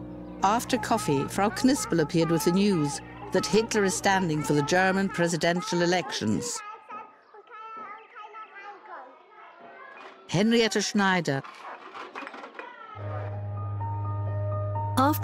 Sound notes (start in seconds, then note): 7.5 children talking; 13.0 slow somber music